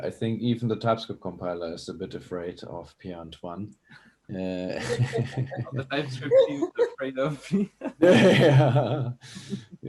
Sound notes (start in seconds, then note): 4.4 all chuckle; 8.0 all laugh